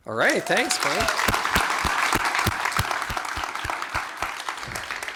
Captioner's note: applause